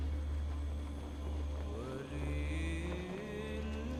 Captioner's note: none